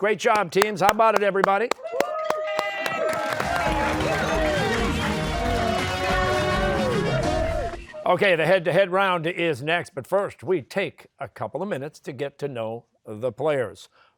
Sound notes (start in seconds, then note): 1.4 cheers and applause